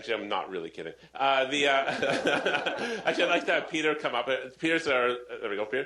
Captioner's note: laughter